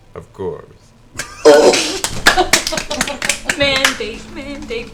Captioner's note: all laugh